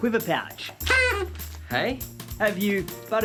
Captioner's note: party blower hoots